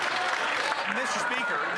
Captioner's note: some Applause